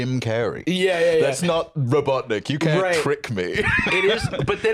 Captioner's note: laughs